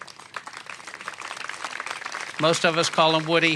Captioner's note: applause